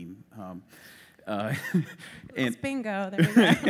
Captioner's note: laughter